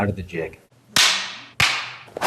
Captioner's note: snapping